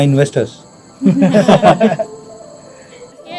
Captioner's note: laughs